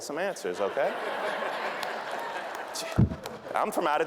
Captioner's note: audience laughing